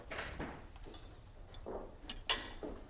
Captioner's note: door opens